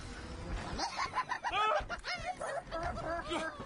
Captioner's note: gnome gleefully cackling; yelping